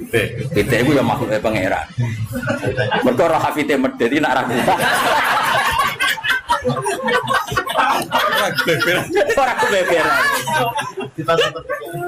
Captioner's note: laughs